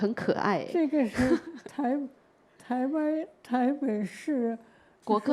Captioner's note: laughter; Mandarin